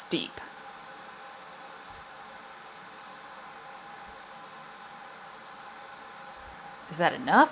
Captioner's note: kettle boiling sounds in the background